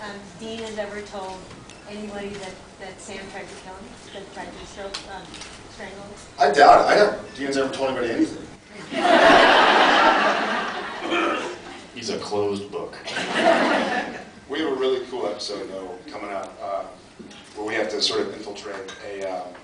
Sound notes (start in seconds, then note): 8.8 laughs; 13.1 laughs